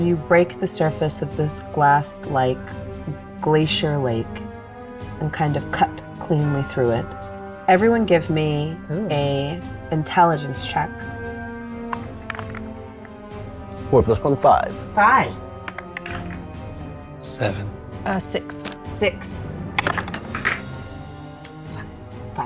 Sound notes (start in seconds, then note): 15.6 dice rattling; 18.3 die rattling